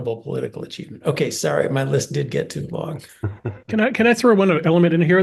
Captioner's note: laugh